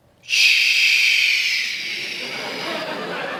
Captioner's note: laughter